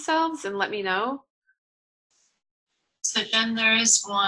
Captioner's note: pause